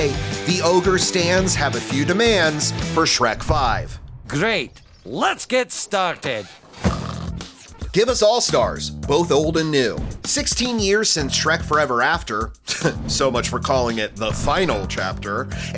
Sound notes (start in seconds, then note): 6.8 snores; 12.7 laughs